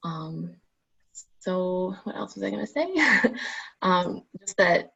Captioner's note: laughing